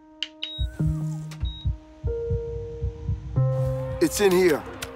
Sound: heartbeat thumping

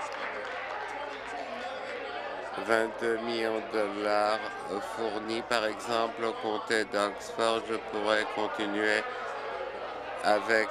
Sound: applause

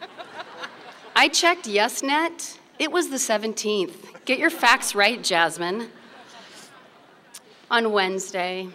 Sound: laughter; laughter

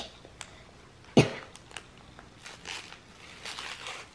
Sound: coughs

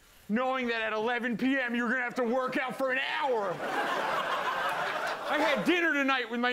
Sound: laughter

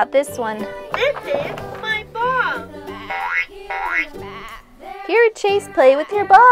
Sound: boing boing

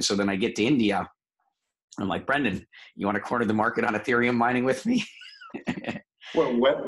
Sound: laugh

